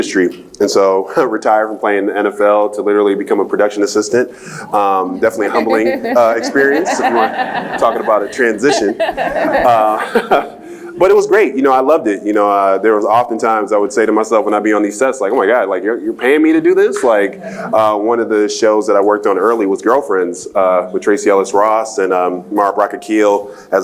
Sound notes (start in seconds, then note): 5.2 laugh; 10.3 laughs